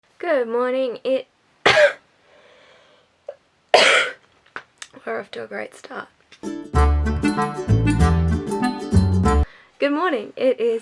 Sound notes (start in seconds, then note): 1.6 coughing